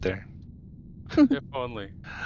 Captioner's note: laughing